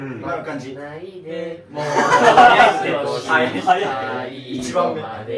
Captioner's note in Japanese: 笑い